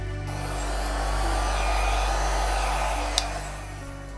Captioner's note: hair dryer blowing